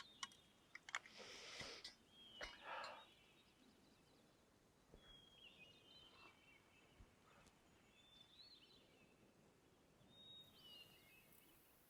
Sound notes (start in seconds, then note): 2.4 Coleman sighs; 5.0 birds chirping